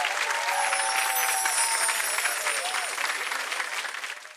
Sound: chimes ring

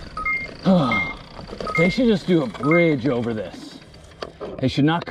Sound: beeping; groans

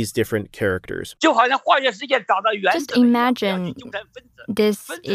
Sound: speaking Mandarin

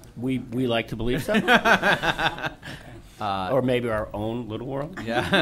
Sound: laughter

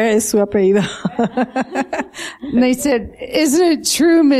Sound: laughter

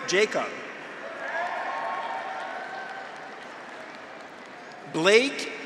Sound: graduates cheer; audience applauds

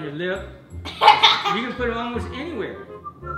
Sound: laughs

